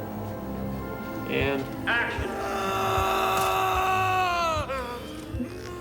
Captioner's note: screaming